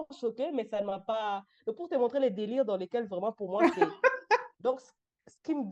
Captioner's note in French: rires